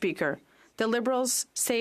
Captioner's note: speaking French